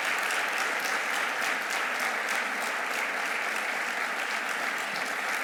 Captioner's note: audience applauding